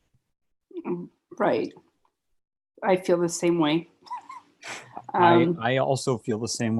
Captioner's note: laughs softly